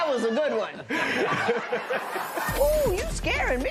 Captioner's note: laughter